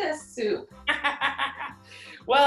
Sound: laughs

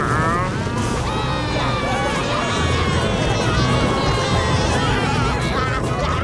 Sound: clamoring

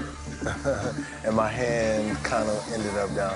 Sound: laughs

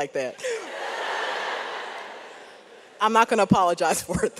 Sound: audience laughs

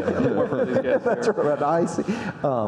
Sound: audience laughing

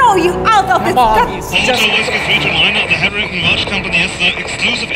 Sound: crackle

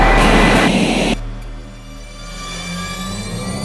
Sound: screen buzzes

